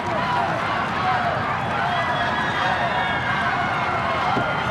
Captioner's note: crowd cheering